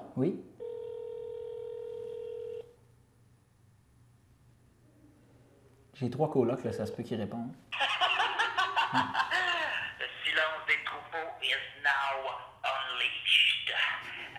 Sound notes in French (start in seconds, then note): 0.6 tonalité au bout du fil; 10.7 rire